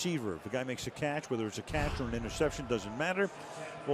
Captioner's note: crowd cheering